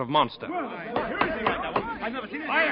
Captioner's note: knocking